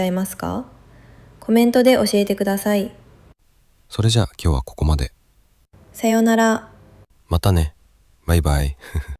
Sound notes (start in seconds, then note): 8.8 laughs